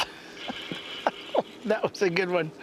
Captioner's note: laughter